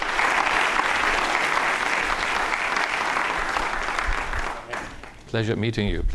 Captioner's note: audience applauds